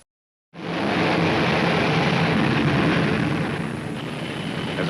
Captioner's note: rocket propelling